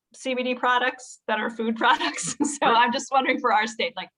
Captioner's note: laughs